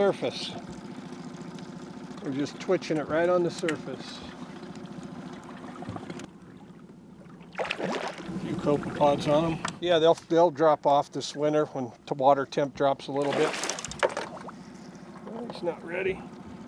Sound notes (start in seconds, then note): 7.2 fish splashing; 13.2 fish splashing